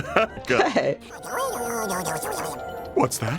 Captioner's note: laughs; squirrel chittering